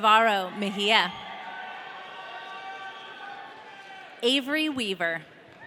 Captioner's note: audience cheering